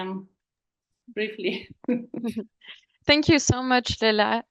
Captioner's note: chuckles